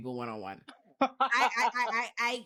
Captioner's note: laughing